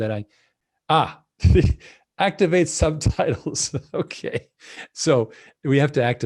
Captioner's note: laughing